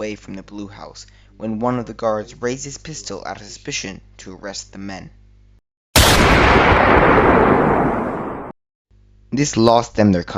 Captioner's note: boom